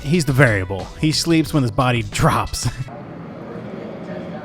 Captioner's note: laughs